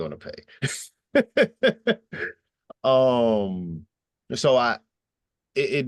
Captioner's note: chuckling